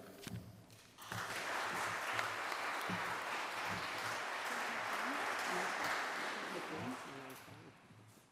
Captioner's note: applause